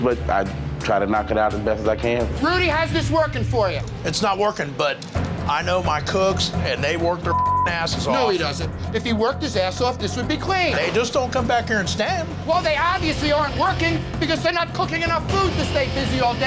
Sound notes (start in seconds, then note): 7.2 beep